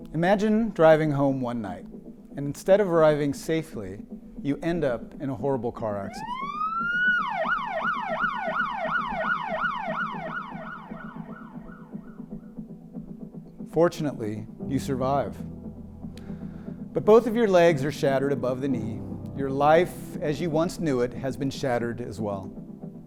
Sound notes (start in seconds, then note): 0.0 soft music; 6.2 sirens blaring